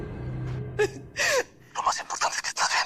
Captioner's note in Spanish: Sollozos